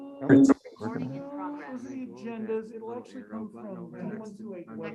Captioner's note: members chatting